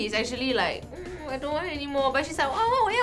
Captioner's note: giggly